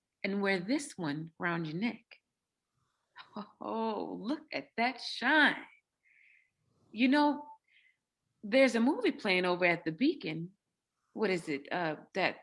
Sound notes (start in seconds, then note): 3.5 chuckles